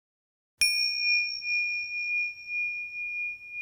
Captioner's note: bell chiming